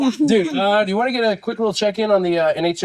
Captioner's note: laughing